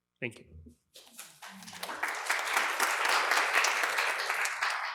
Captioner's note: applause